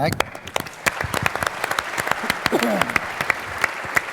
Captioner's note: applause